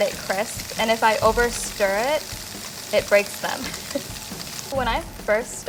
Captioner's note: laughs